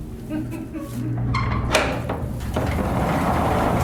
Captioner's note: chuckle; metal lock opening; heavy door sliding